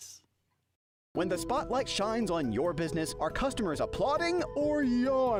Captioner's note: voiceover